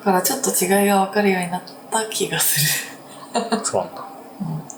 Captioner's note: laughs